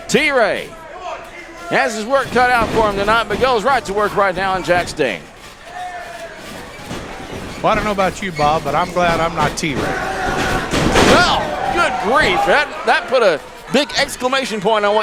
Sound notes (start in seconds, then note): 5.6 crowd cheering; 11.5 groaning